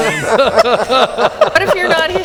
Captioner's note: laughter